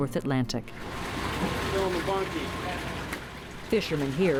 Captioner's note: engine rumbles